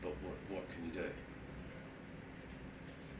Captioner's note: none